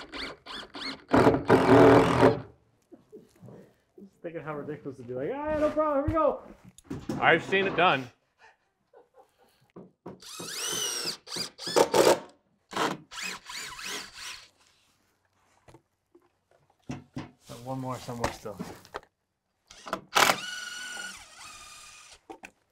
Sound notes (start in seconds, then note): 0.0 drill whirring; 4.5 laughing; 8.9 laughing; 10.2 drill whirring; 19.7 drill whirring